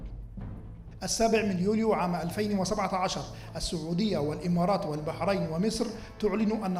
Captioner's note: male speaking in foreign language